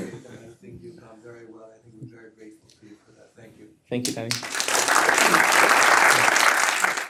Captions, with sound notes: and I think you've done very well. I think we're very grateful to you for that. Thank you. Thank you, Dani. [APPLAUSE]